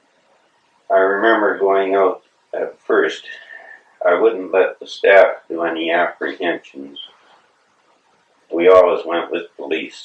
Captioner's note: sigh